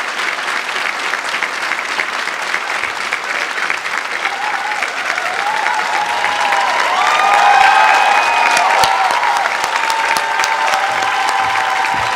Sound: applause

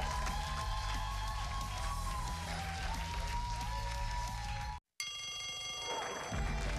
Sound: cheers and applause

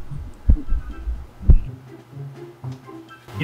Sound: can you hear her heart beating?

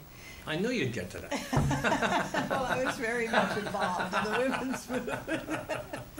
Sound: laughter

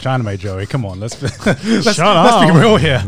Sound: laughs

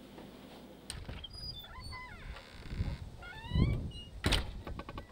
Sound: door creaks

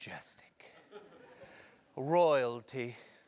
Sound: laugh

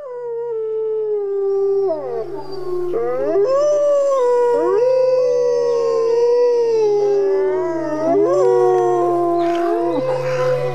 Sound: wolves howling

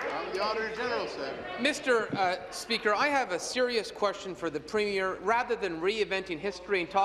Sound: applause

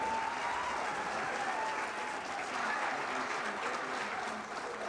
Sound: crowd cheering

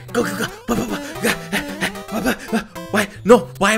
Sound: nervous gasps

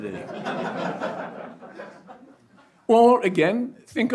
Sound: audience laughs

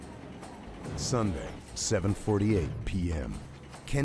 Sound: voiceover

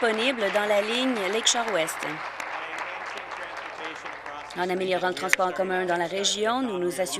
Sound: applause

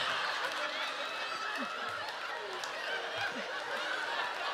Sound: audience laughing

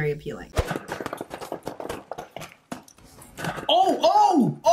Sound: cans popping

